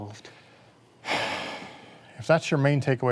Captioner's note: sighs